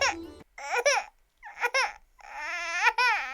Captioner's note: starts crying like a Baby